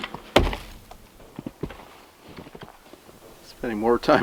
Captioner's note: log thumps